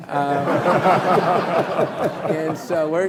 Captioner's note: laughing